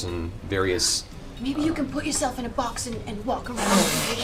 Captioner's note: gasps